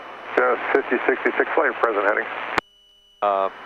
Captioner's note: man On Radio